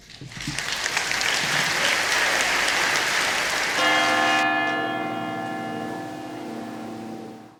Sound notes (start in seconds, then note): 0.0 applause; 3.8 bell rings